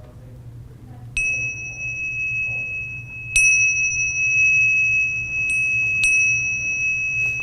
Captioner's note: bell ringing